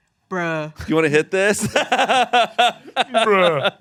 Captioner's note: laughs